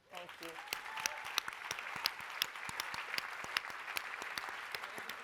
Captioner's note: applause, cheering